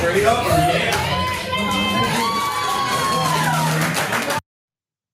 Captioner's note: applause